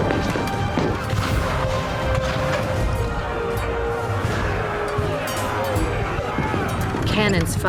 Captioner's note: cannon blasts, gunfire